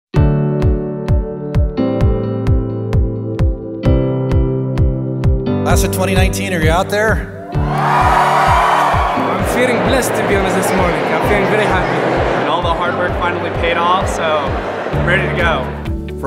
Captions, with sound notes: (upbeat music) Class of 2019, are you out there? (cheering) - I'm feeling blessed to be honored this morning, I'm feeling very happy. - All the hard work finally paid off, so I'm ready to go.